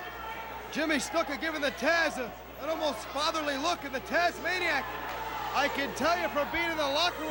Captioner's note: crowd chatter